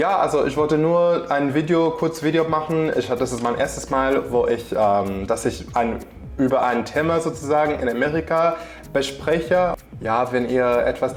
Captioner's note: in German